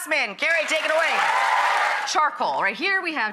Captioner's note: clapping and cheering